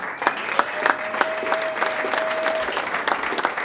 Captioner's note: applause